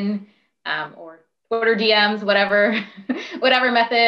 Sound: laughs

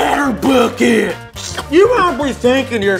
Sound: saliva sloshing

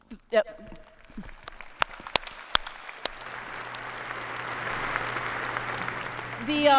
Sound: applause

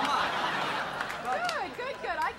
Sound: audience laughing

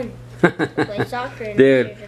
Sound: dad laughing

